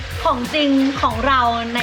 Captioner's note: whoosh